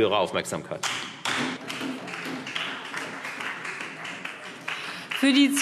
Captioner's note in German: Beifall Freie Demokraten und vereinzelt SPD